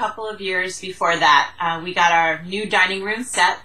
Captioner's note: Vietnamese